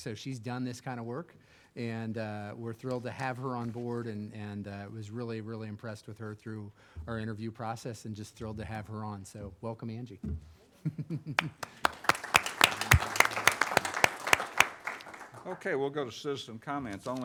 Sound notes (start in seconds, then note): 11.4 audience applauding